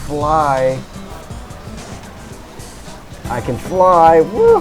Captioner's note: cricket